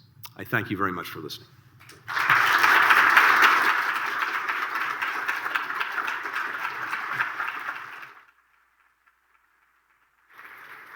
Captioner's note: applause